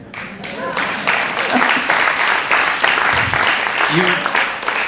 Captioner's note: audience applauding